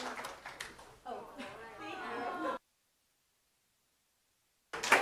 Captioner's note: group chattering